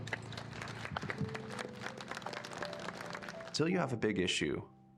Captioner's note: audience applauding